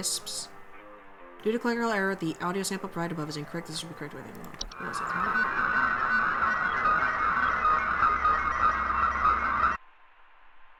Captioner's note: electronic warbling